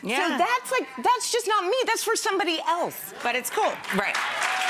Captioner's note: audience cheers